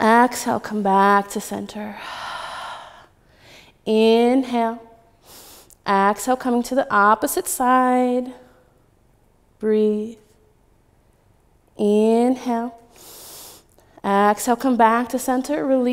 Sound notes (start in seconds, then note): 2.0 exhaling; 4.3 inhaling; 12.9 inhaling